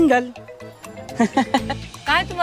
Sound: laughs

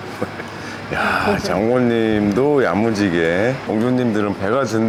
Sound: laughing

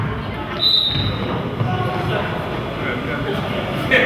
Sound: whistle blows

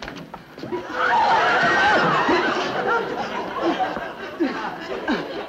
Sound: audience shrieks and laughs

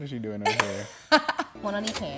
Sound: laughs

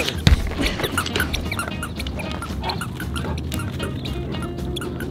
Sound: shoes squeaking

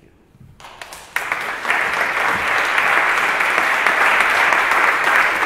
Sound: assembly applauds

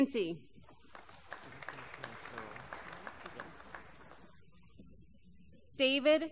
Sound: applause

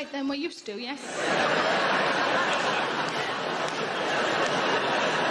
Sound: audience laughing

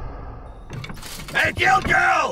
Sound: tense humming music; door clicks and clunks; armor clinks

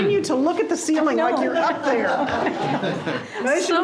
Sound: people laughing

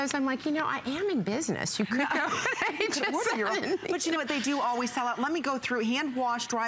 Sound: laughter

